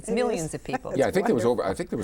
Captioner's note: laughs